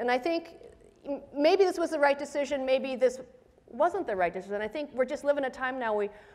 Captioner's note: none